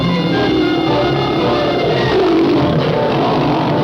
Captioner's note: lion growling